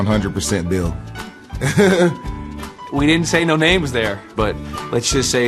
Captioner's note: laughs